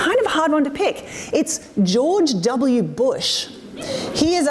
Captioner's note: audience laughs